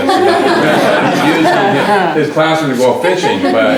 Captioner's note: laughter